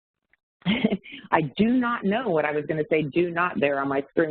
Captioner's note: chuckles